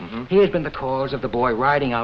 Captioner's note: Ed hums agreeingly